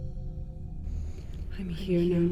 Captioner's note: bright chiming